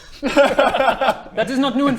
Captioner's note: forgetful giggles